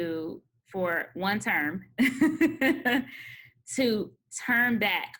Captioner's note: laughs